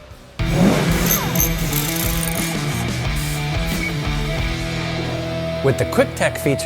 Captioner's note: upbeat rock music; sparks zapping